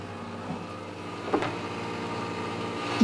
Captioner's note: the machine whirs